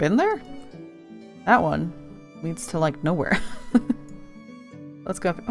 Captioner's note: laughs